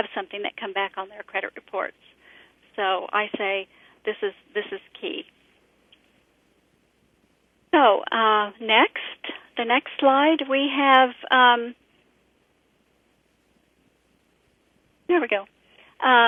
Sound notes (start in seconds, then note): 5.4 pause